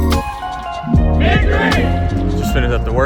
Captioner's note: team Speaking In Unison